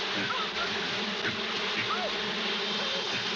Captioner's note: screaming